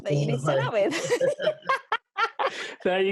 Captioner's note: group laughing